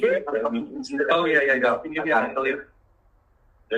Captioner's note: overlapping chatter